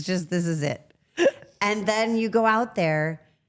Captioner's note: Rhea laughs